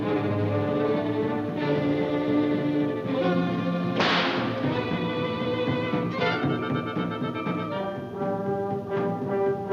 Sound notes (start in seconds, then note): 4.0 rope snapping; 6.5 ominous music